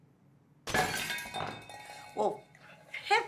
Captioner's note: dish crashing